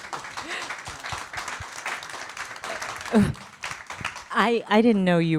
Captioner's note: attendees applaud